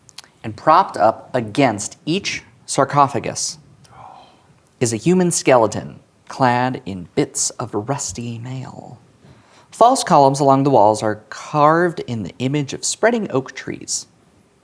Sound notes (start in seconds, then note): 3.9 gasps